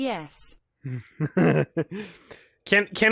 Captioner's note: chuckles